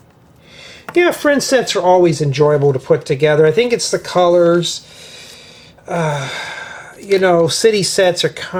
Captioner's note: sighs